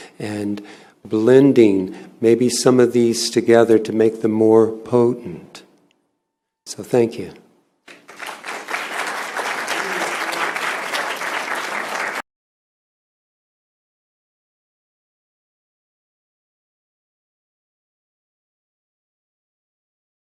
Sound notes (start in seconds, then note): 7.8 applause